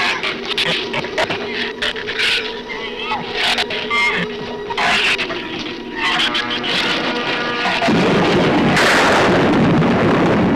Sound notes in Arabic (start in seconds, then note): 0.0 زئير الزبابة; 6.2 تصفيق الرعد